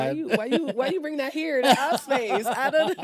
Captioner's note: laughs